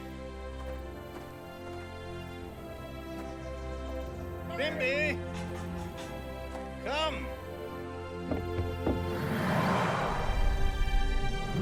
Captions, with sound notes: (soft uplifting music) Here ye, come. (tiger growling)